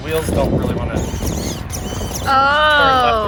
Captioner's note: wheels whirring